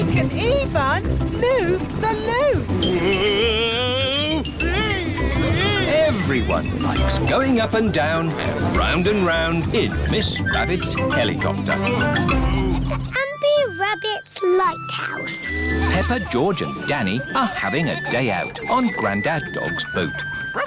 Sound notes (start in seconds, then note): 5.0 screaming; 12.3 daddy pig groans